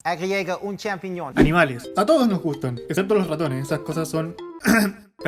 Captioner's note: ahem